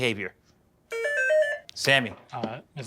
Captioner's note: buzzer